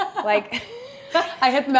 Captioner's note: chuckles